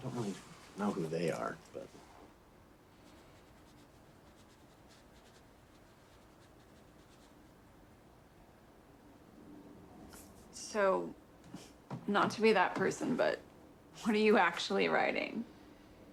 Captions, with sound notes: I don't really know who they are, but. (Pen scribbles) - So not to be that person, but what are you actually writing?